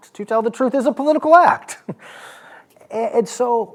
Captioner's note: chuckles